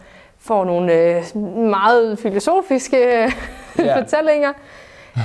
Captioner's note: laughing